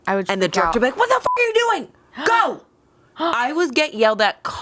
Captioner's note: beep